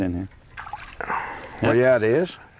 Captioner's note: splash